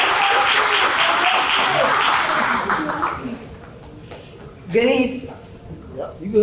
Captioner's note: applause